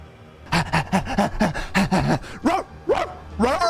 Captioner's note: huffing like a dog